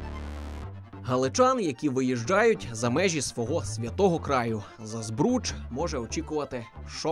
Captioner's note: voiceover